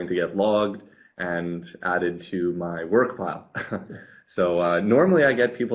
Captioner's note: laughs